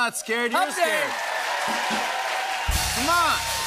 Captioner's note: cheers and applause